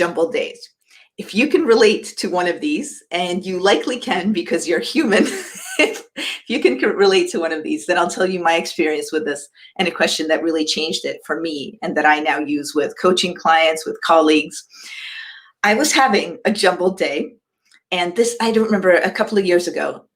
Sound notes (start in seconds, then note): 5.2 laughs